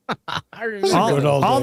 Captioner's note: laughs